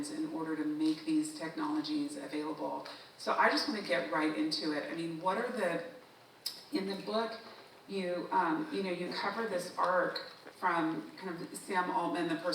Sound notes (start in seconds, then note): none